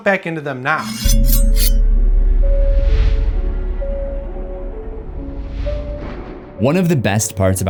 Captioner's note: knives sharpening; ominous music